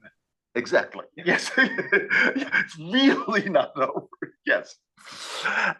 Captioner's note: laugh